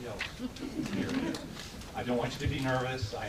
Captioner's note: audience laughs